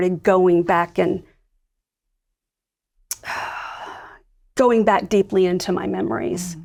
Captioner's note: sighs